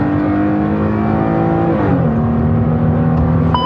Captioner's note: car enginracing